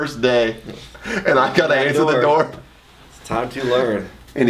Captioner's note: laughs